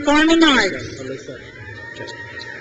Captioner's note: crowd cheers